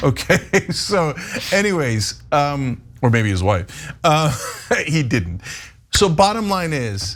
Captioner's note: laugh